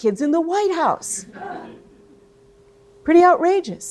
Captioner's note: audience laughing